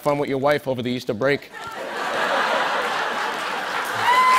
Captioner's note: laughter; cheers and applause